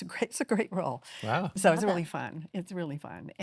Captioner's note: chuckles